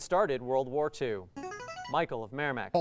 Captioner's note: ringing